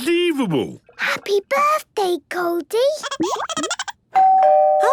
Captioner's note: Goldie giggling; doorbell ringing